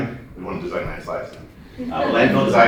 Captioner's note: laughter